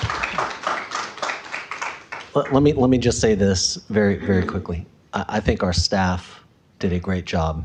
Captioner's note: applause